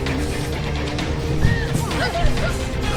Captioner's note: gasp, crying